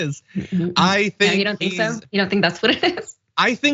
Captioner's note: laugh